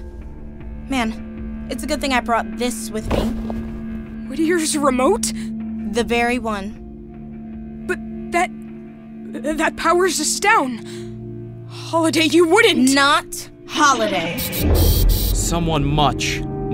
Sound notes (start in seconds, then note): 13.8 electronic sounds